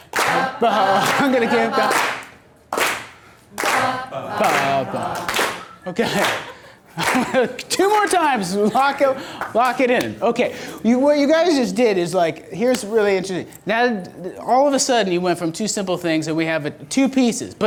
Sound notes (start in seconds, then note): 0.3 voiceover; 6.5 laughs